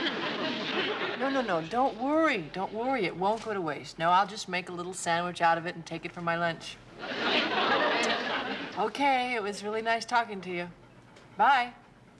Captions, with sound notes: No, no, no, don't worry, don't worry, it won't go to waste. No, I'll just make a little sandwich out of it and take it for my lunch. [laughter] Okay, it was really nice talking to you. Bye.